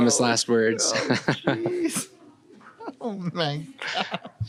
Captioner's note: laughs